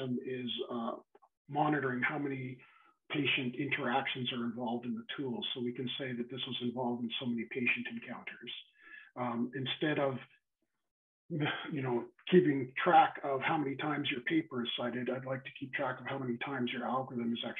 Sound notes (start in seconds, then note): 11.4 sighs